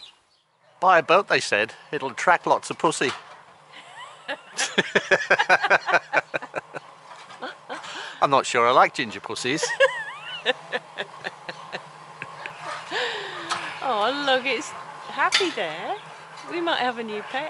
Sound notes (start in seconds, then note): 3.8 laugh out loud; 9.5 laughs